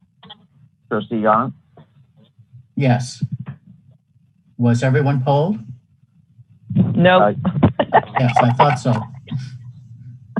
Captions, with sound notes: Aye Trustee Jandt Yes. Was everyone called? No [LAUGHTER] I thought so